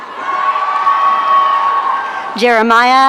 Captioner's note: audience cheering